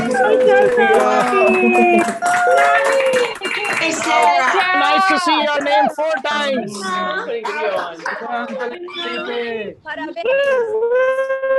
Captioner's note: applause